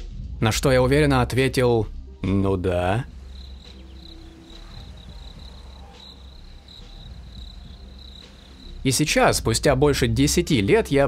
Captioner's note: crickets